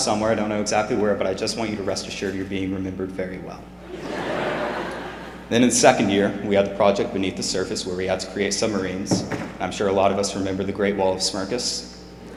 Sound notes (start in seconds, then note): 3.8 laughter